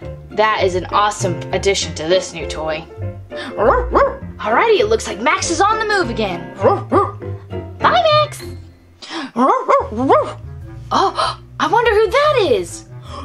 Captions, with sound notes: That is an awesome addition to this new toy. (barking) Alrighty, it looks like Max is on the move again. (barking) Bye, Max. (barking) Oh, I wonder who that is?